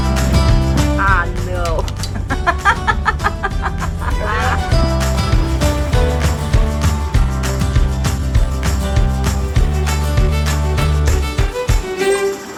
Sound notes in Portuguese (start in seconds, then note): 2.1 risadas